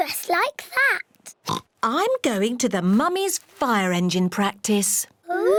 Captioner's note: oinks